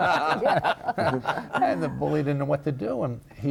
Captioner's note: laughing